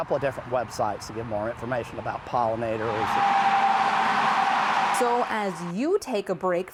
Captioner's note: nat Sound: cars on roadway